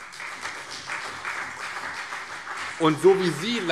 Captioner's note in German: Beifall CDU und BÜNDNIS 90/DIE GRÜNEN